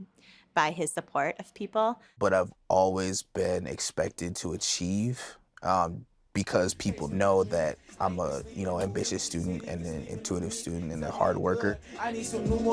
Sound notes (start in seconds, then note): none